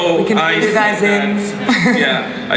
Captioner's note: voiceover